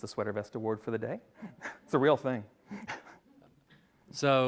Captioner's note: laughs